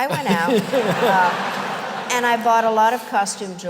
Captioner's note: laughter